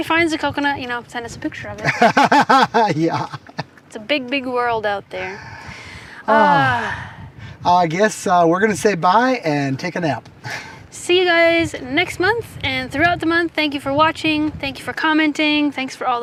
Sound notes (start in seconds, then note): 5.2 sighing